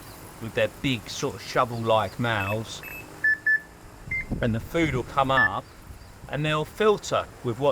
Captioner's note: beeps